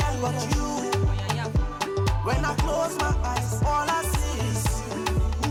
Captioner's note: speaking African dialect